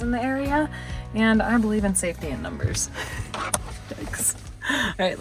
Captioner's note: laughs